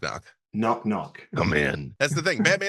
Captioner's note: gravelly Batman voice